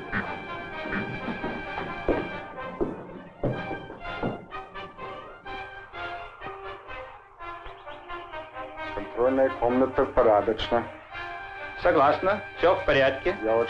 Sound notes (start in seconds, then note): 7.3 birds chirping; 8.6 military leaders speaking in Russian